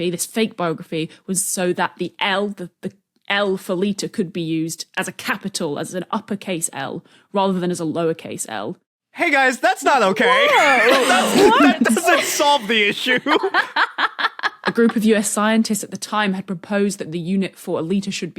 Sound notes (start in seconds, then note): 10.0 group laughing; 13.7 cackles